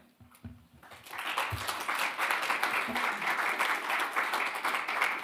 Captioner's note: attendees applauding